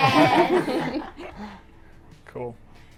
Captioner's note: all laugh